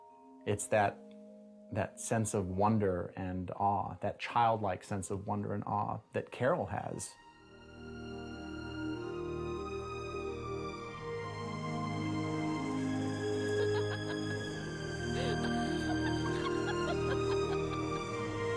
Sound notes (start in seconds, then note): 13.2 laughing